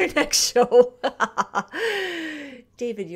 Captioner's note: laughs